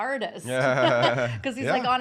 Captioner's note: laughing